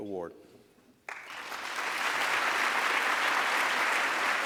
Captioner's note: applause